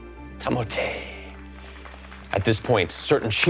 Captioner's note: crowd applauding